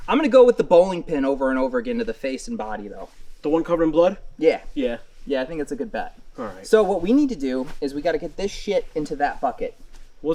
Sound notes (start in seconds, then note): none